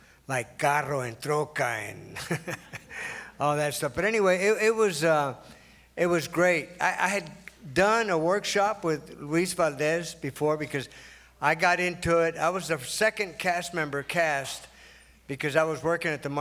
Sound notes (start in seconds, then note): 1.5 foreign language spoken